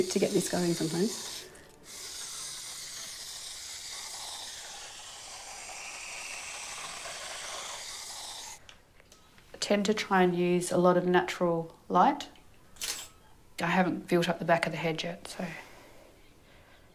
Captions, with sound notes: - Take's a bit to get this going sometimes. I tend to try and use a lot of natural light. (Camera shutter snapping) I haven't built up the back of the head yet so...